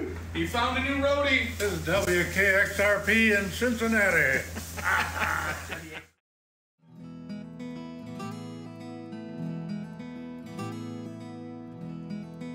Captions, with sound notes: - You found a new roadie. - This is WXRP in Cincinnati. (chuckles) (ambient music)